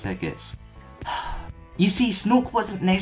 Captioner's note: sigh